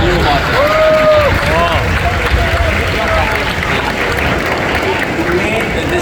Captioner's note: applause